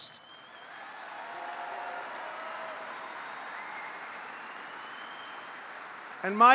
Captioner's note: applause